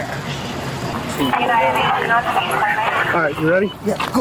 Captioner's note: radio chatter